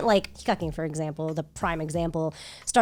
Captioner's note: speaking Japanese